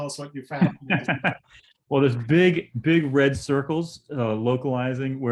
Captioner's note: laughter